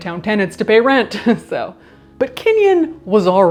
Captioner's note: chuckles